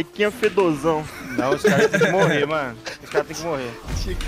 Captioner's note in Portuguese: risos